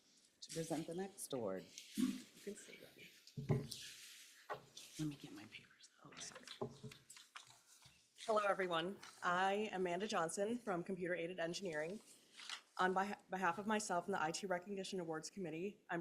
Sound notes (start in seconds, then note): 5.7 whispering